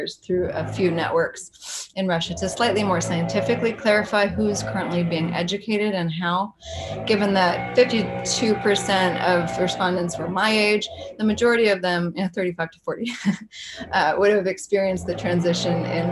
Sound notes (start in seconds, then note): 13.5 chuckles